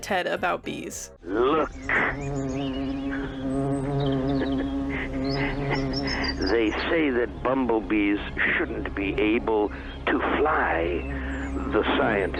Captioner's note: chuckles